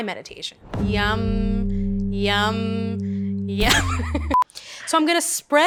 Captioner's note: laughter